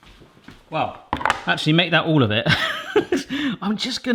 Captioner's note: laughs